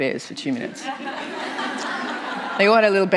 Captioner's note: laughter